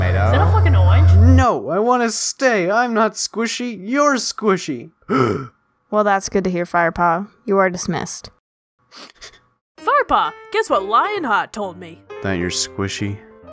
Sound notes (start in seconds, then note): 5.0 Tigerclaw gasps; 8.9 Firepaw sniffling squishy tears